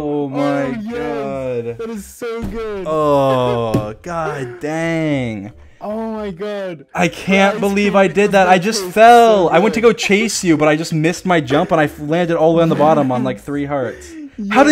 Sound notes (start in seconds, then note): 3.4 laughs; 3.9 sighs